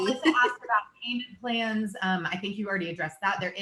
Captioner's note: murmurs